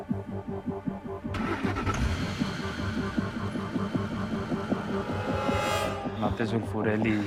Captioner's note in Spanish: Ruido del vehículo